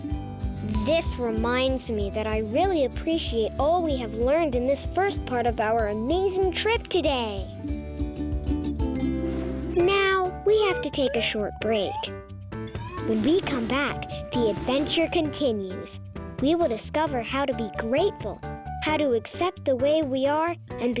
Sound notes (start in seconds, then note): 9.4 gentle piano music; 12.7 whooshing